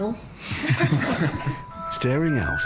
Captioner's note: people chuckling